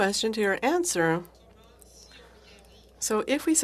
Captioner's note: speaking FRENCH